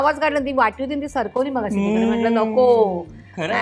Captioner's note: clears throat